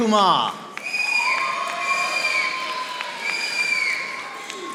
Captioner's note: audience applauding